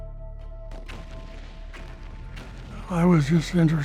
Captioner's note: bombs exploding